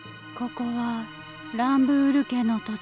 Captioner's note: none